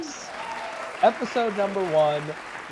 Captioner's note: crowd Cheering